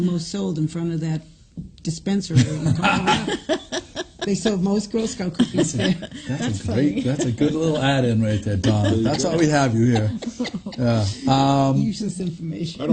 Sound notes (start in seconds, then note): 2.6 laughs